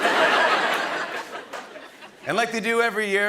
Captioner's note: laughter